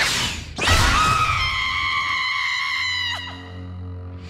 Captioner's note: high pitched screaming